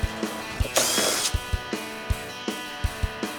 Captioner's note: rock music; drilling sound